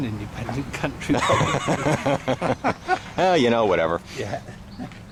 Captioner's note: both Laugh